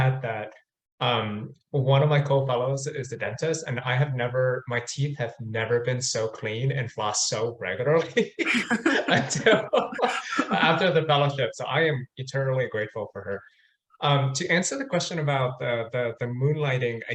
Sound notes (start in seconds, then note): 7.9 both laughing